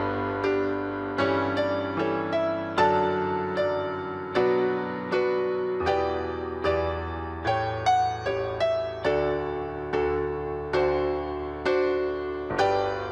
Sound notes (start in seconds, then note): none